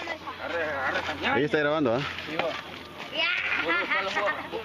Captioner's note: speaking in foreign language